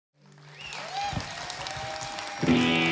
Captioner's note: audience applauding; guitar twangs